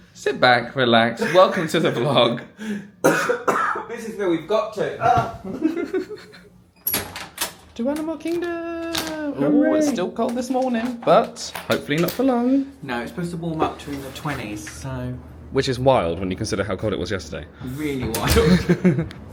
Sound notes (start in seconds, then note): 0.0 laughing; 3.0 coughing; 5.4 laughing; 6.8 door clatters; 18.3 laughs